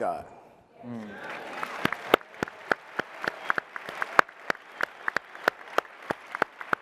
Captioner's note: applause and cheering